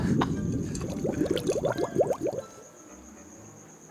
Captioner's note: liquid bubbling; light instrumental music